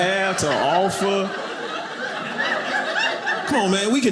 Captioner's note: audience laughing